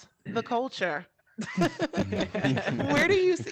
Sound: group laughing

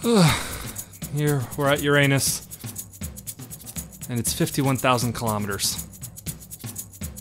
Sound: sigh

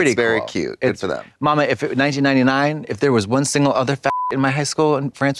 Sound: beep

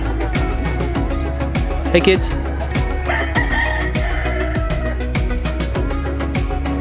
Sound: cockerel crows

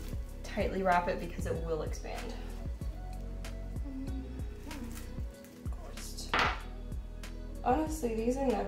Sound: happy murmur of success

